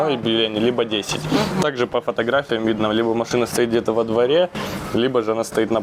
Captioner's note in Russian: фыркает